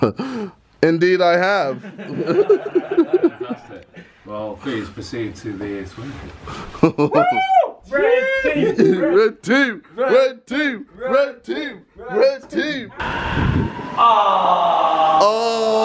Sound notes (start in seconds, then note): 1.8 laughing